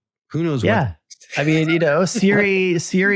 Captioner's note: laughs